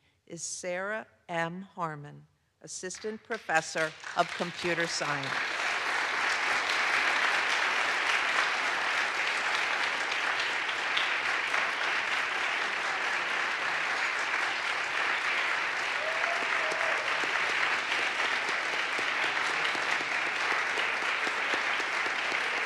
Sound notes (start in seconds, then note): 5.4 audience applauds